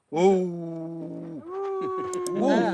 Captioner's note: man howls